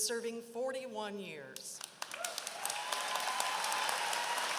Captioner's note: applause